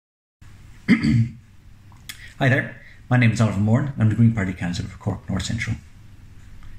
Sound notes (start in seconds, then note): 0.8 coughs